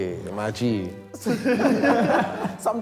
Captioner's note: laughs